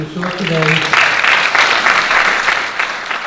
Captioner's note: audience Clapping